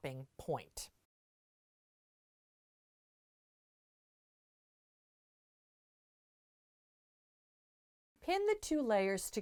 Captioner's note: no Sound Present